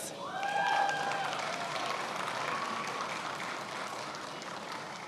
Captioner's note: attendees applauding